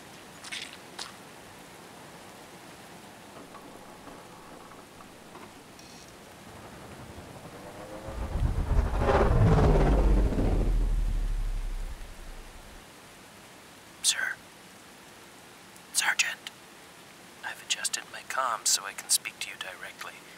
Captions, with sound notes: *Whispered* Sir... Sergeant... I've adjusted my comms so I can speak to you directly